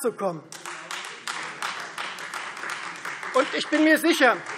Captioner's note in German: Beifall Freie Demokraten